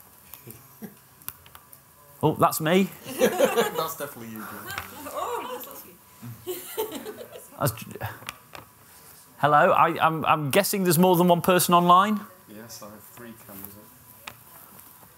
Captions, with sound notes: oh that's me [laughter] that's definitely you oh! [gasps in the background] [laughter] hello I'm guessing there's more than one person online? yes I have three currently